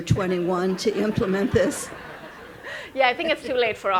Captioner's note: all laughing